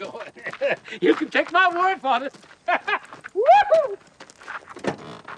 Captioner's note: laughing and whooping